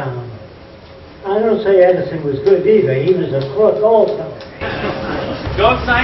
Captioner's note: laughter